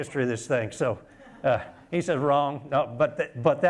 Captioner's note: laughter